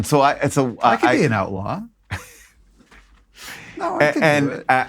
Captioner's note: laughs